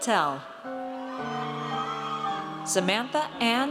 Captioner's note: audience cheers